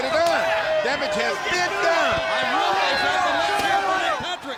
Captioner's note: crowd clamoring